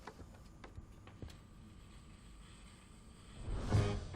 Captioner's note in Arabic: خدش السجل